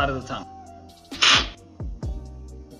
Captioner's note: slurping